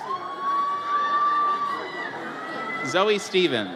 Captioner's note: audience cheers